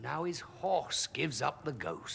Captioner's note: none